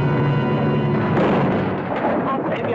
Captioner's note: boat crashing